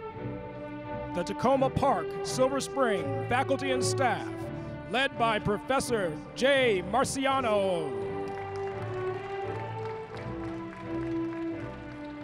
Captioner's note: applause